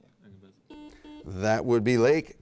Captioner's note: buzzer beep